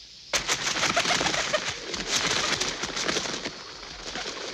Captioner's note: birds flapping